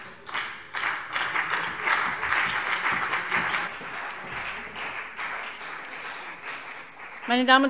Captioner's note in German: Beifall CDU und BÜNDNIS 90/DIE GRÜNEN